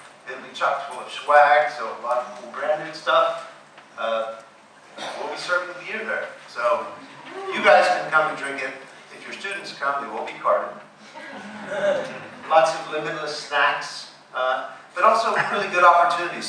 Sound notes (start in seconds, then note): 11.1 laughing